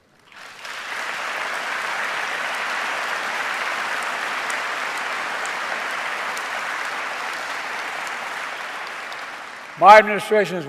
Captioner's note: applause